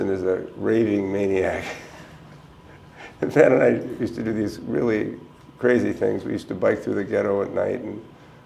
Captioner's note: chuckle